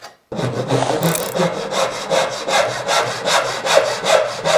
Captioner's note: sawing wood